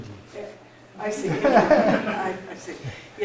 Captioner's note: laughter